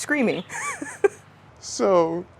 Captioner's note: laughs